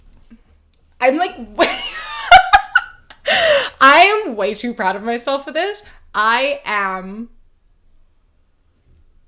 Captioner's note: laughs